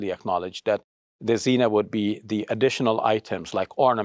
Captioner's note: speaks Arabic